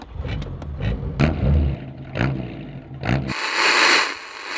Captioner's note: engine revving; radio static